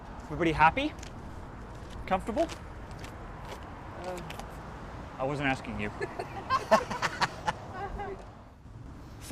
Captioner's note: risas